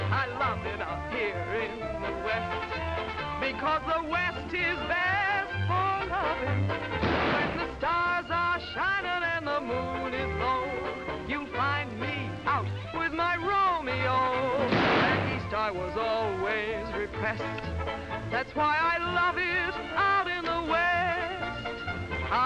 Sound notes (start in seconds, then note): 7.0 gunshot; 14.6 gunshot